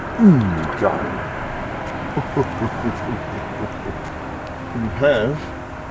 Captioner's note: chuckles